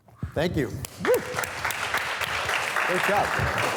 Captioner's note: students applauding